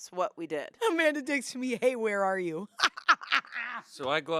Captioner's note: laughs